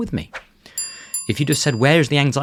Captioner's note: bell dings